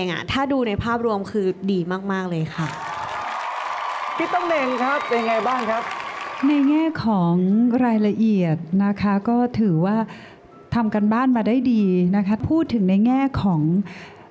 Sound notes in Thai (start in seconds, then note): 2.8 เสียงเอฟเฟกต์ปรบมือ